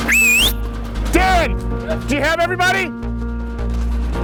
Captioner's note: whistles